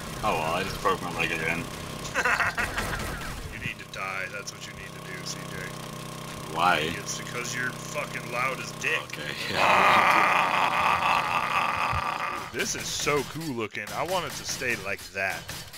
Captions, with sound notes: Oh well. I just broke my leg again. *LAUGHS* You need to die. That's what you need to do C.J. Why? - It's because you're fuckin' loud as dick. OK. *IMITATES AUGER NOISE* This is so cool looking. I want it to stay like that.